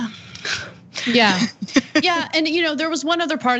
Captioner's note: laugh